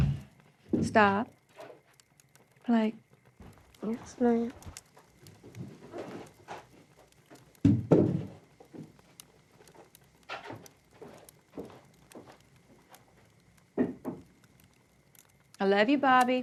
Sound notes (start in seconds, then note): none